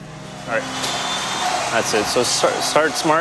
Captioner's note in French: acclamations